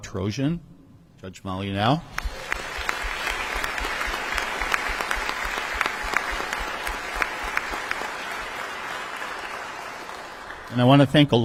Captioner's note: audience applause